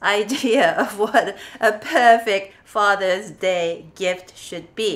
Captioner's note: chuckles